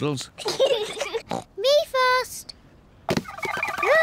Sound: snorts

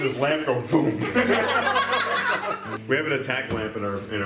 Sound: laughing

